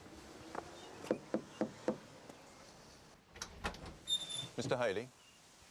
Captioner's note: health inspector knocking